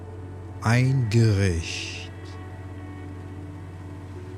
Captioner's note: german